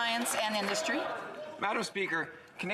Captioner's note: applause